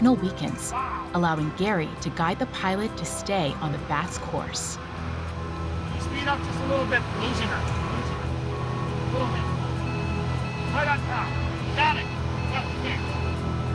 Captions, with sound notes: allowing Gary to guide the pilot to stay on the bat's course. (device beeping at low pitch) Can you speed up just a little bit? We're losing her, we're losing her. A little bit, a little bit. (device beeping at high pitch) Right on top, got it!